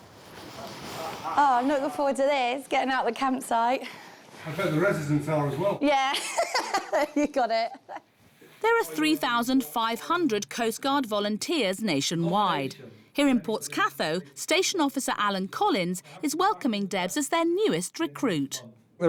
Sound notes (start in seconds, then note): 6.2 laughs